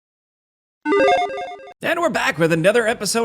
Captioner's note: computer chimes